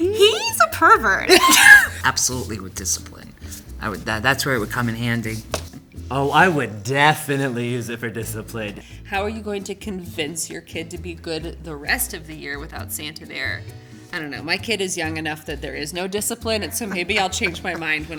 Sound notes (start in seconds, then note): 1.2 laughing